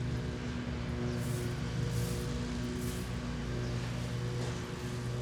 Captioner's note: lawn mower engine roaring